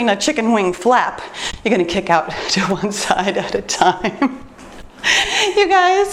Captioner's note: laughs